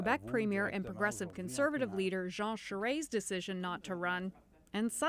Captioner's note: speaking French